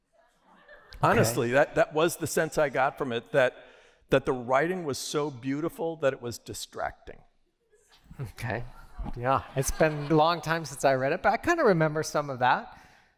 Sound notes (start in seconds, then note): 7.3 laughter